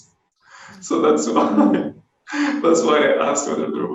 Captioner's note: laughs